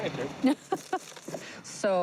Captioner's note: laughter